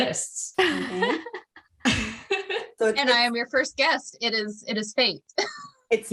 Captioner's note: laughter